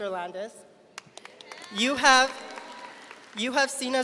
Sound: audience applauding

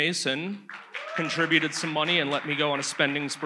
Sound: audience applauds

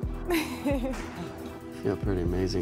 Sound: chuckles

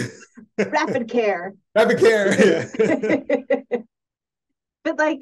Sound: laugh

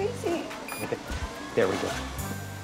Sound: machine beeps

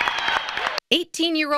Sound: loud applause & cheers

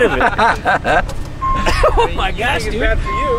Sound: laughing

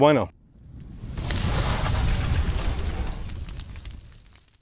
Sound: fireworks

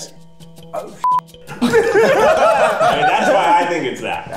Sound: beep; laughing

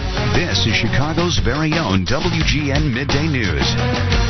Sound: voiceover

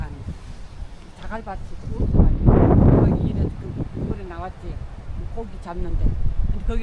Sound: wind noise issue

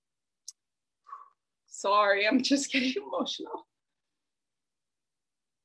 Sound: exhales

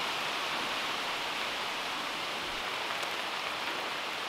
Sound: raindrops pattering

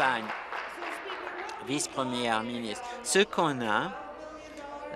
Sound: applause

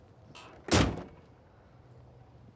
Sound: truck door closes

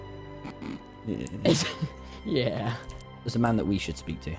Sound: laughs

